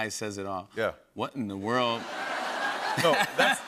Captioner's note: laughter